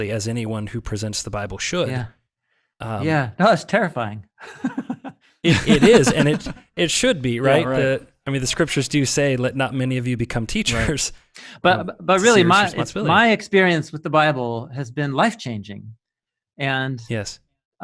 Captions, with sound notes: as anyone who presents the Bible should. - Yeah, no, that's terrifying. (laughing) - Yeah, it is, and it should be, right. - Yeah, right. - I mean, the scriptures do say, let not many of you become teachers. - But really, my experience with the Bible has been life-changing and-- - Yes.